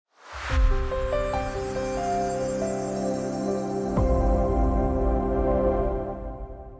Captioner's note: transition whooshes; bright music